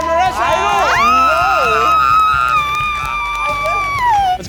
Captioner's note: screaming